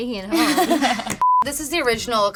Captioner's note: laughing